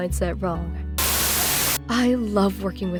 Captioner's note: Static